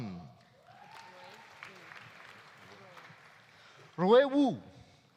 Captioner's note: audience applauding; audience cheering